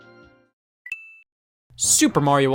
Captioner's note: coin dings